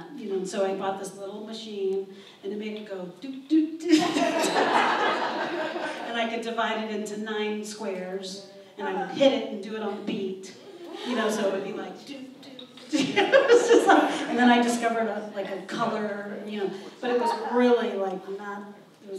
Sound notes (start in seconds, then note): 4.0 audience laughs